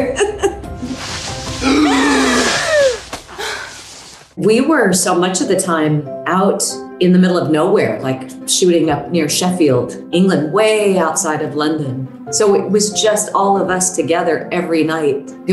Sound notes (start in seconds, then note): 1.2 gasping; 1.6 laughs